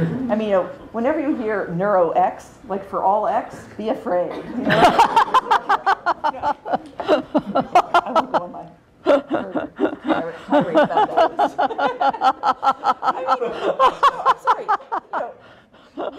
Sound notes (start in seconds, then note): 4.3 laughter